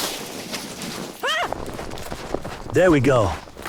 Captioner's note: scream